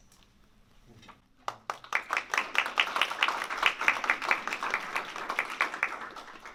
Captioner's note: applause